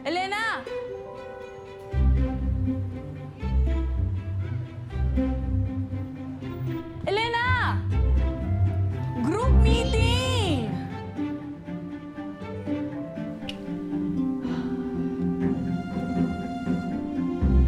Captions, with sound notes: Elena! (mellow music) Elena! (mellow music) (sighs)